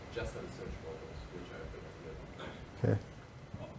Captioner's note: speaking faintly